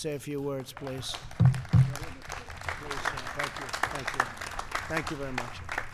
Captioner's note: applause